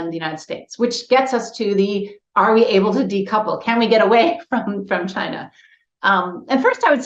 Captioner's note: laughs